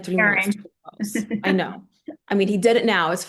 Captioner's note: laughing